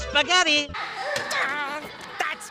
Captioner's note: growls